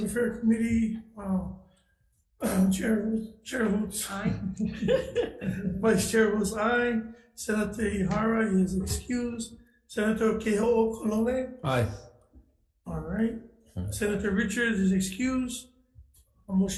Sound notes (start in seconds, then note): 3.9 chuckling